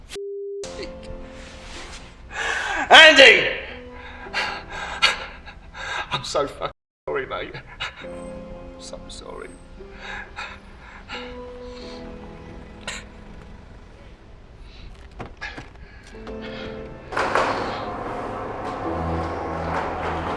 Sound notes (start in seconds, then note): 3.9 Jez sobbing; 10.0 Jez sobbing; 17.1 gate whirring